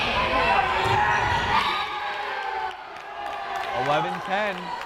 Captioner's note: crowd cheering